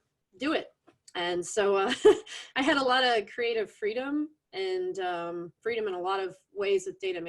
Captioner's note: laughs